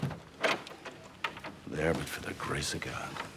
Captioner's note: none